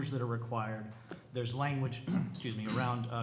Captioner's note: clears throat